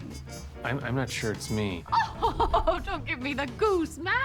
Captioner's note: laughs